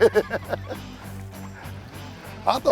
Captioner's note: laughs